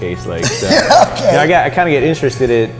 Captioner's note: laughing